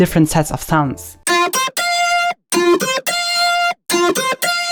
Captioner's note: super mega poggers-cool sounds playing